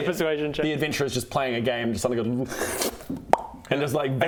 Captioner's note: slurp...pop!